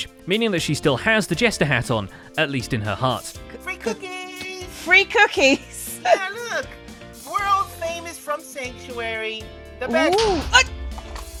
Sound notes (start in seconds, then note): 4.8 laughs; 10.3 explosion